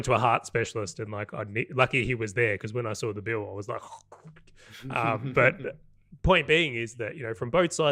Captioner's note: gasp